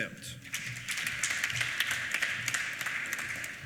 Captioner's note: applause